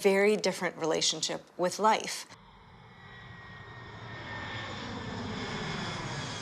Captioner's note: airplane roars